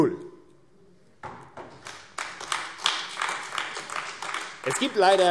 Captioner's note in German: Beifall AfD